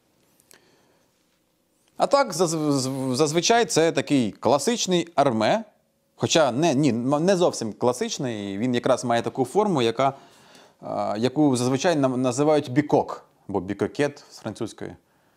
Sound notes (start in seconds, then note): 10.6 french